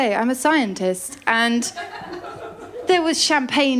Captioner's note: laughter